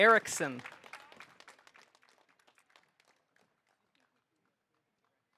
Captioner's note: audience applauding